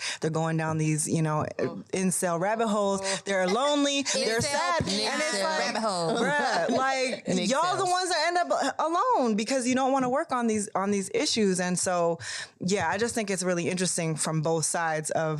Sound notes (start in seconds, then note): 4.3 all laugh; 5.4 speaks faintly